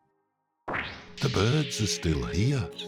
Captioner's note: words whooshing